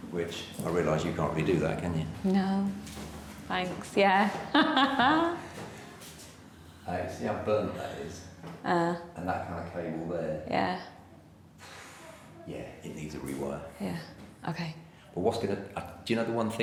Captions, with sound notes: Which I realize, you can't really do that, can you? - No. Thanks, yeah. (laughs) - Do you see how burnt that is? - Uh. - And that kind of cable there? - Yeah. - Yeah, it need a rewire. - Yeah, okay. - I was going to, do you know the one thing